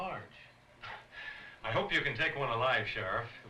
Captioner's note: chuckles